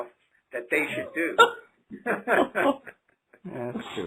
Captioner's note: laughter